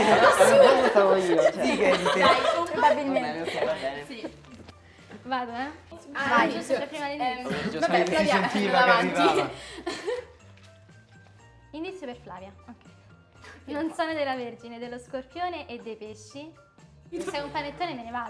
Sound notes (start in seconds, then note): 7.4 laughs